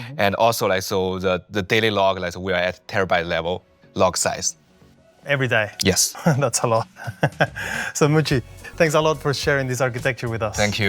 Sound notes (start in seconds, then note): 6.8 laughs